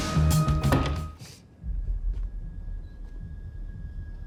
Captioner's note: door bangs